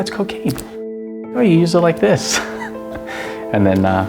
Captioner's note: laughs